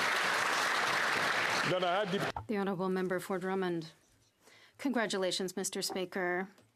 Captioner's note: applause